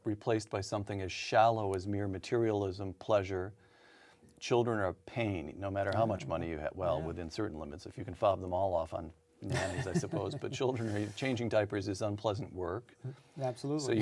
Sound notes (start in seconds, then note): 9.5 laughs